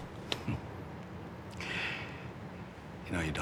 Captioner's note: chuckles